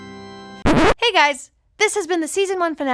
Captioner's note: somber organ music; record scratches